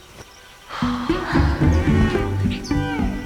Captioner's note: sighs